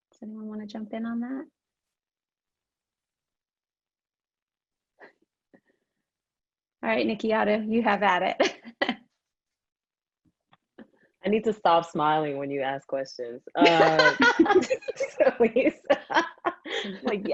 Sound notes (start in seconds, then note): 5.1 laughs; 13.6 panelists laughing